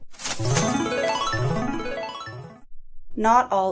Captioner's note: jackpot sound effect